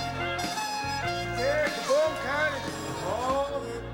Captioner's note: indistinct chatter